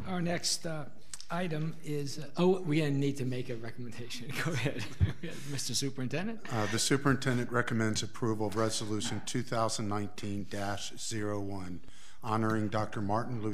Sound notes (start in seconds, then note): 4.4 laughing